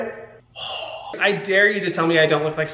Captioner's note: Hyram gasping